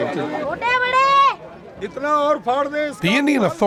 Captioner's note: non-english speech